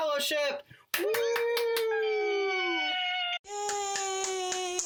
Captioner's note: cheering